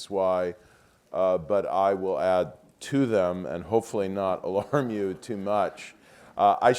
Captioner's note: laugh